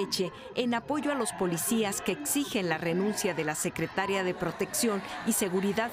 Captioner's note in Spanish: bullicio